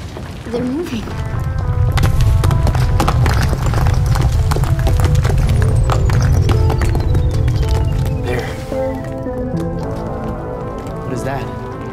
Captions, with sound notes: They're moving! [ CAVE RUMBLES ] There What is that?